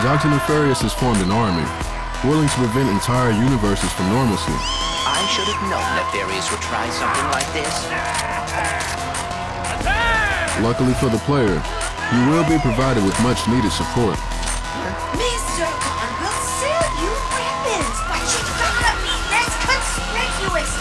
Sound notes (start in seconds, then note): 4.6 >> FEMALE #1: screeching; 8.1 shotgun clicking